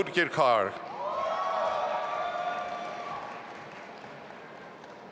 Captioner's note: audience applauding